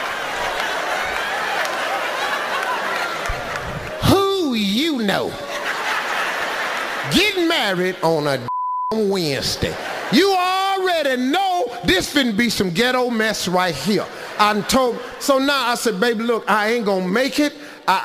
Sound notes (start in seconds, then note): 8.4 beeps